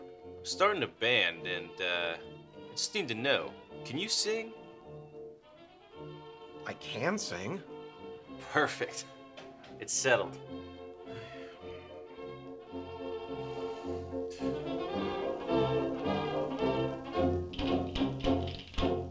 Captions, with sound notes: I'm starting a band and uh, I just need to know. Can you sing? I can sing. Perfect, it's settled. [Sigh]